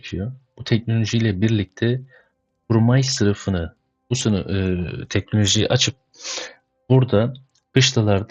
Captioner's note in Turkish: homurdanır